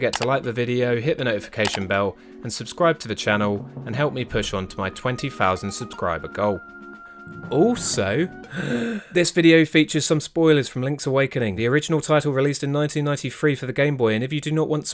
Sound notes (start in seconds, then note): 8.4 inhale